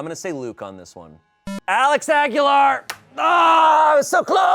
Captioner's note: electronic beep